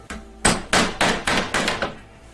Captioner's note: hammering